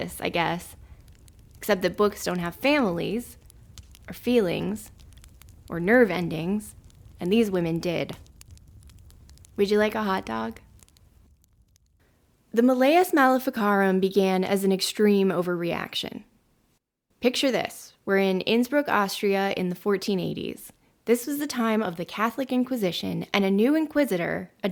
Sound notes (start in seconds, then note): 11.1 fire noises fade out